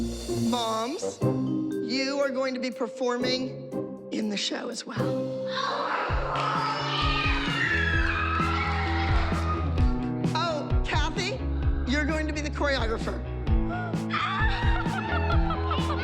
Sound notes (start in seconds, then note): 5.5 cheering; 14.2 laughter